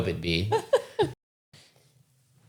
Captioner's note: laughing